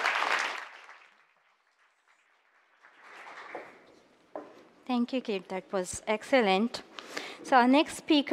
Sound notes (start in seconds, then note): 0.0 applause